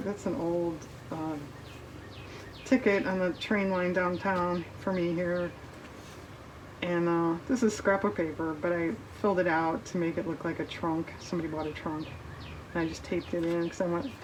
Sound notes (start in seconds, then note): none